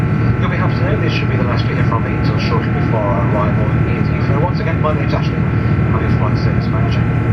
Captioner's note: flight service manager speaking over PA